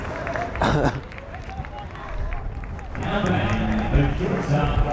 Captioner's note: coughs